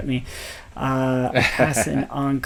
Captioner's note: laughs